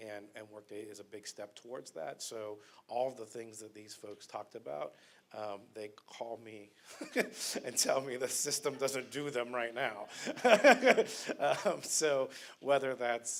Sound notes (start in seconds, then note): 10.0 laughter